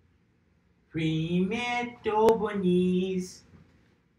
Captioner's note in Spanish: En ruso